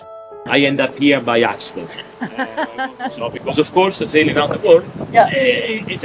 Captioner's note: laughing